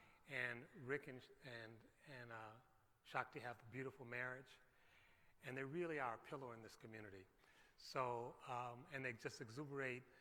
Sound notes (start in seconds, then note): none